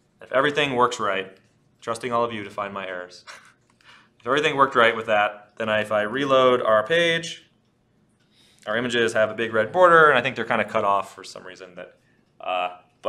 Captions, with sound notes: If everything works right, trusting all of you to find my errors (laughs), If everything worked right with that, then if I reload our page, our images have a big red border. I think they're kinda cut off for some reason,